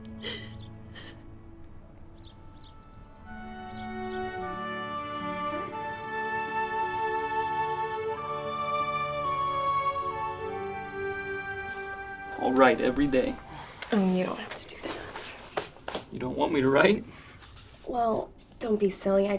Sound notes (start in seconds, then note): 0.2 crying; 1.8 gentle music; 1.9 birds chirping